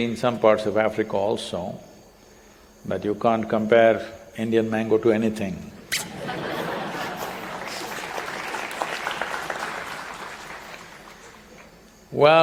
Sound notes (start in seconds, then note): 6.0 laughter; 6.9 applause